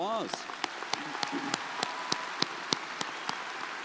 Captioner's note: crowd applauding